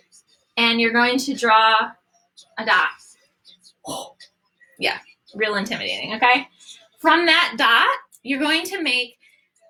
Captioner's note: gasps